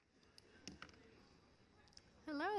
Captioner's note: audience chattering